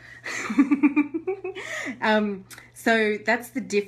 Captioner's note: giggles